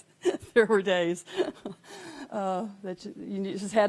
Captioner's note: laughing